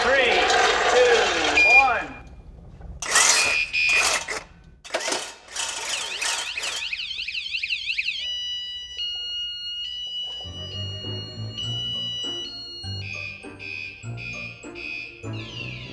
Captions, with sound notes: Three, two, one. (saw buzzes) (alarm beeping) (mischievous music)